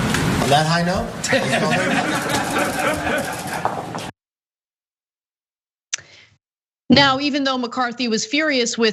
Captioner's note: laugh